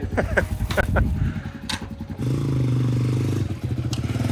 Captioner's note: dirt bike motor humming